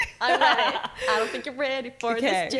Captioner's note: laughing